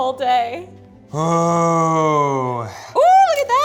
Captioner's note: groans